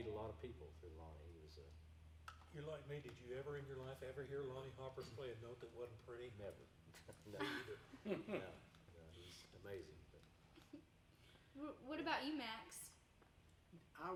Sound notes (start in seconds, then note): 7.0 group chuckling